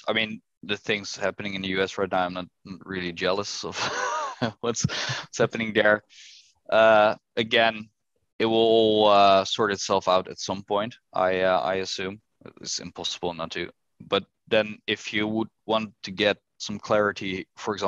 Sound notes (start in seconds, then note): 3.7 chuckles